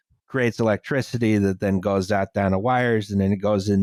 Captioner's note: none